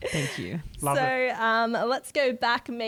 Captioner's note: laughter